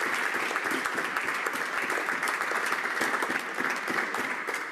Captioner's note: applause